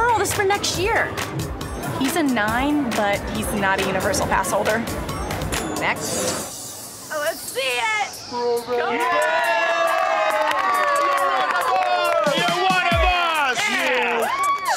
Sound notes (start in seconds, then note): 8.9 all cheering; 13.7 all applauding